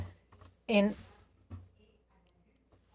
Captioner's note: speaking French